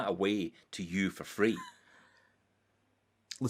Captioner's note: laughs